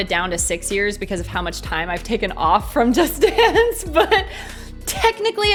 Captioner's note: chuckles